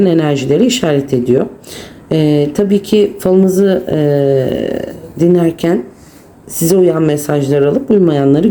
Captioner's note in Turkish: homurdanır